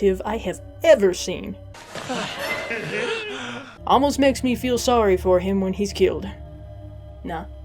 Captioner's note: goofy zombie uncle laugh